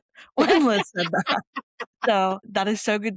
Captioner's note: laughter